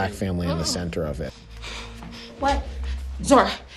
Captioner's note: heavy breathing